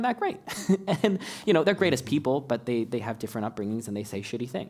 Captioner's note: laugh